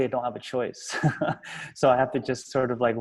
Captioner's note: laughs